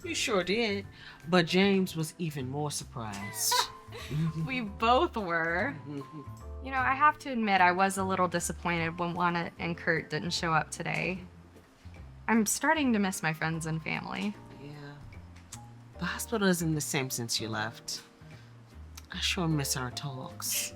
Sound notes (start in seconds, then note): 3.3 laughs; 5.8 Colleen chuckles